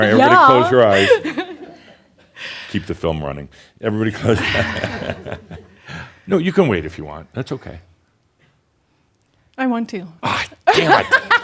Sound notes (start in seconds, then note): 4.3 chuckles; 10.7 they chuckle